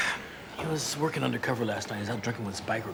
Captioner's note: sighs